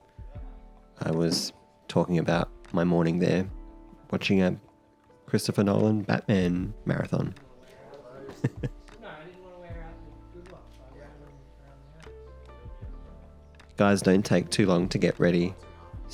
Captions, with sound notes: I was talking about my morning there watching a Christopher Nolan "Batman" marathon. (chuckles) (gentle music) Guys don't take too long to get ready